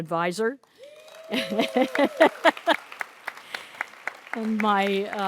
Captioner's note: audience cheers and applauds